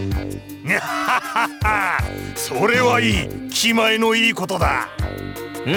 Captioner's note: laugh